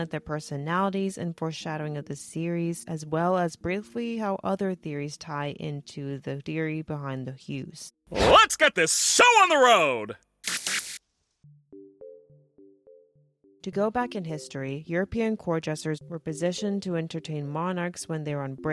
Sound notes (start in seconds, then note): 10.4 flicker